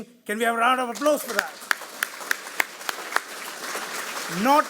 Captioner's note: everyone applauds